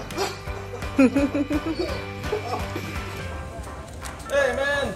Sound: onlooker chuckles; dog whines

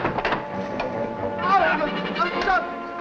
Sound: loud banging; men yelling; dramatic music playing

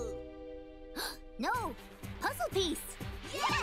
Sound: gasps

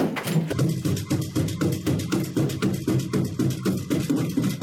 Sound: footsteps thudding

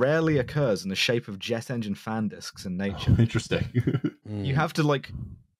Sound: slightly laughing

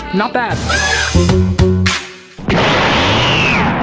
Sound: upbeat music; drill hums; explosion

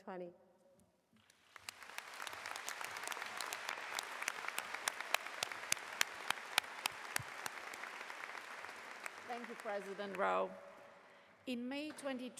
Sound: applause

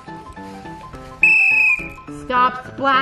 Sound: whistle blows

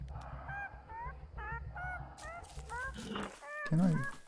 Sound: Mandrake meeping

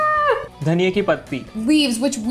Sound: speaking in Hindi

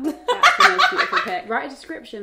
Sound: laughing

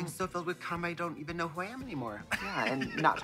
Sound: titters

